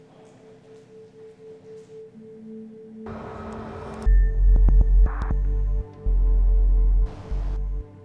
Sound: tones and static noises

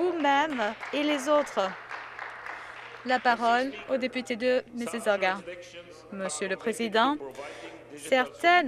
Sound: some Applause

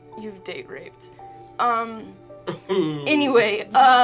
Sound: groaning

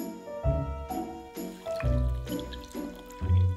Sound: liquid pouring

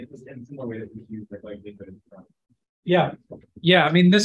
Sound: speaking faintly

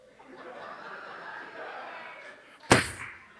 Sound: audience laughs

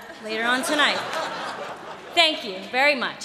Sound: laughter

